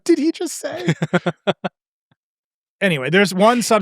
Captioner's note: laughing